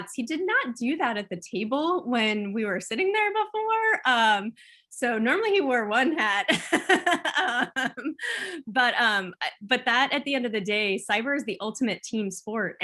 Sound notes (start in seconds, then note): 6.2 laughs